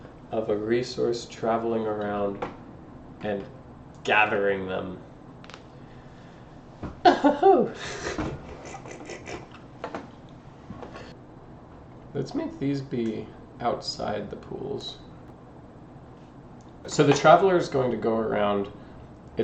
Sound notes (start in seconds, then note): 9.5 chuckles